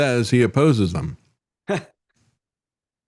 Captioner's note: laughs